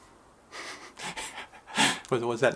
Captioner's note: laughs